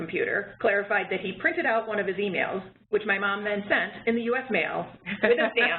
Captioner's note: laughter